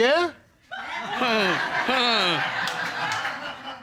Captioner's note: audience laughs